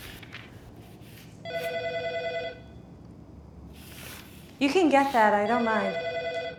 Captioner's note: ringing continues